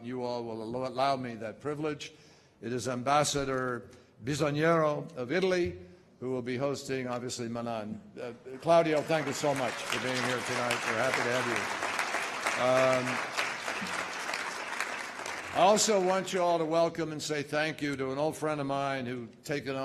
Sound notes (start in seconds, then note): 11.2 applause